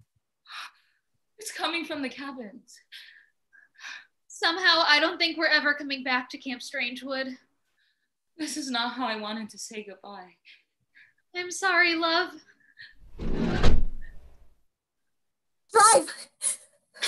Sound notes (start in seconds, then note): 13.3 van door slides shut